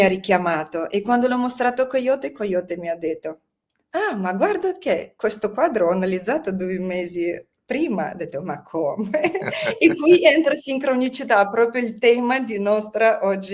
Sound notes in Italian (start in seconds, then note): 9.0 risate